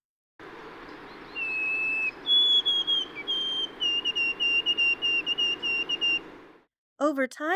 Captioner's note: white-Throated Sparrow song with the triplet ending